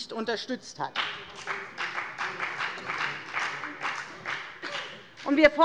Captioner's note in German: Beifall bei der FDP